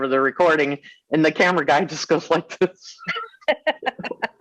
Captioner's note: laughing